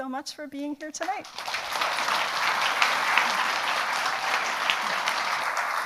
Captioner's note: audience applauds